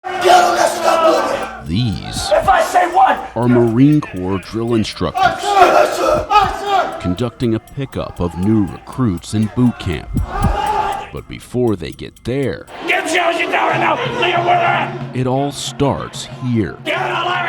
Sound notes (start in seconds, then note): 0.2 drill instructor yelling